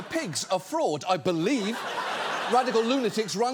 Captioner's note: audience laughs